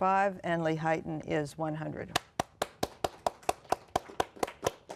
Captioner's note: applause